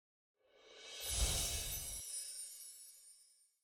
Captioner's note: text tinkling